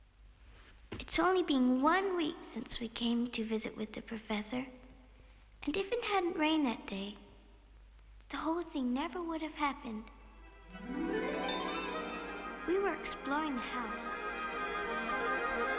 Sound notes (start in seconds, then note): none